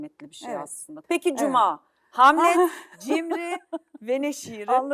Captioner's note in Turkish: kahkaha